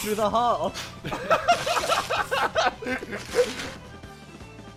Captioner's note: laughing